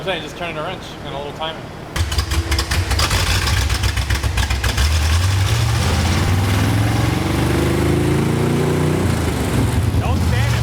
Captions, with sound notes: (engine revving) - Don't stand in front of it.